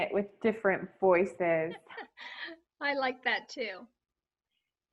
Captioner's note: laughs